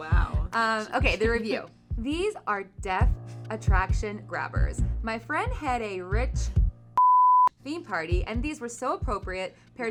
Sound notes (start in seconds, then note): 7.0 beeping sound